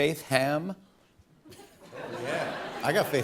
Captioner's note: laughter